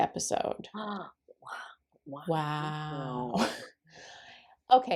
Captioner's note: gasps